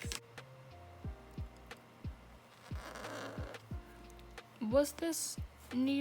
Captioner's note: the sound of the marker on the paper